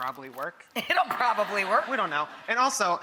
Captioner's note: audience laughs